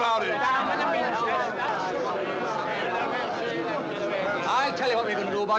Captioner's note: people chattering